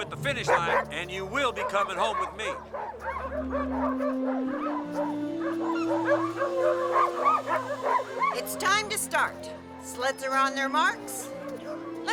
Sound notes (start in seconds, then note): 3.3 dogs barking